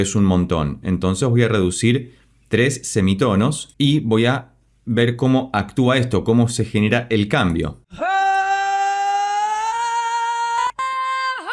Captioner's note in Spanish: grito